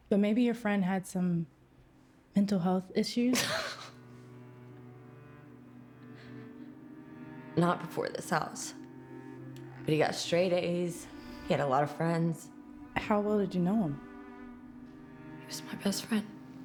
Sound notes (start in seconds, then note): 3.4 Claire scoffs; 4.3 somber music